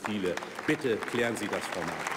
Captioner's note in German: Beifall bei der LINKEN und dem BÜNDNIS 90/DIE GRÜNEN